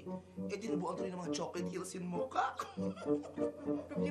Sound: laughs

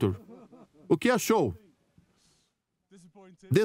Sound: photographers laughing; voiceover

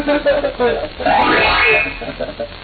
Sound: child laughing; ring; child laughing

